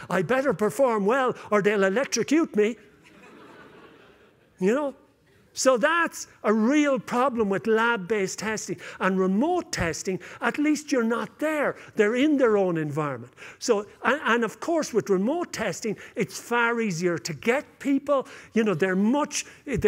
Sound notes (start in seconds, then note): 2.9 laughter